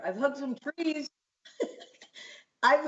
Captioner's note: laughter